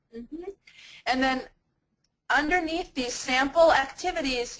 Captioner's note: voiceover